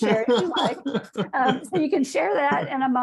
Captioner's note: laughs